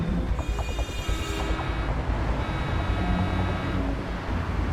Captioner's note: horns honking loudly